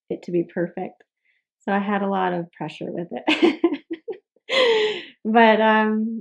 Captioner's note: laughs